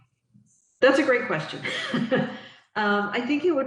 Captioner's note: giggles